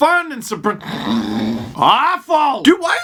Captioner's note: dramatic snoring